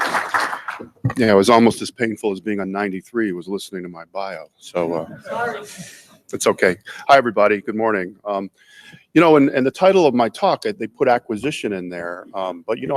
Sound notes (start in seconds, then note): 4.9 audience laughs